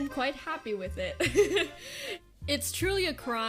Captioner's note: giggles